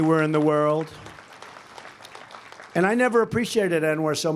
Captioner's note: applause